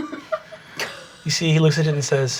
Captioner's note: everyone laughing